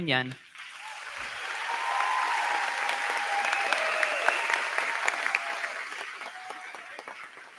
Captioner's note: crowd clapping; crowd cheering